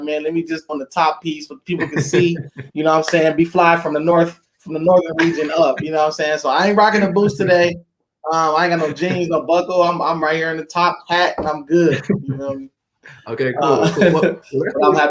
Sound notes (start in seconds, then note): 1.7 chuckling